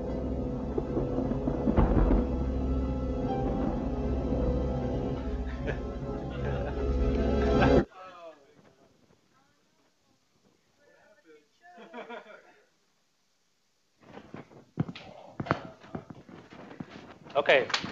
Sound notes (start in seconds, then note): 0.0 thunder rumbling